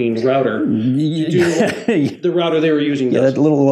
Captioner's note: laughs